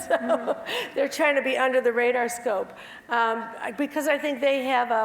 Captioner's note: laugh